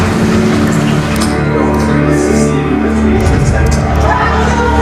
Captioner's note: rain; clicking